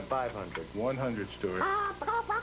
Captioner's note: squawks like chicken